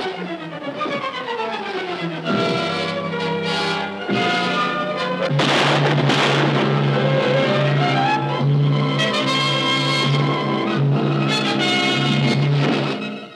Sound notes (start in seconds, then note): 5.2 gunshots firing; 9.2 dramatic orchestral music